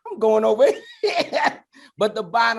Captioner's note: laughs